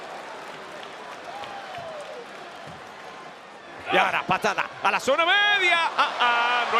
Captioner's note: applause